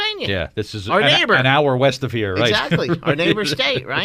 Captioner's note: laughs